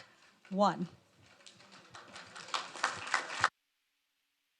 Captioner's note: audience applauds